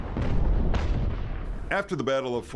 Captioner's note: cannons firing faintly